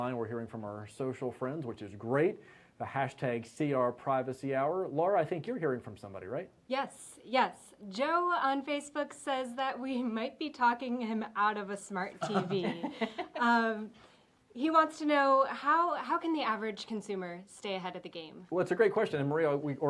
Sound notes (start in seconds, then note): 12.2 laughing